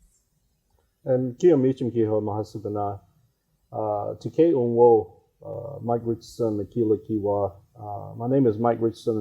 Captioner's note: speaking in his native language